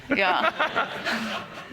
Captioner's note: laughter